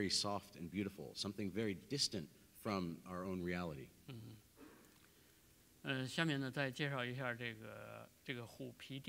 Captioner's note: speaking in Chinese